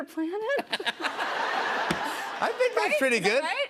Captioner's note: laughter